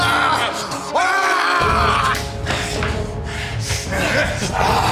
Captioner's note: Brown screaming